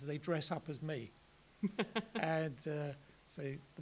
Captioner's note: laughs